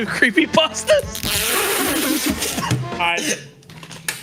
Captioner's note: all laughing